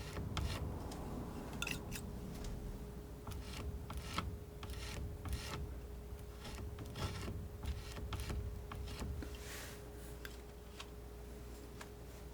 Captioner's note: scratching